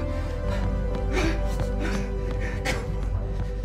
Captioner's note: palms thudding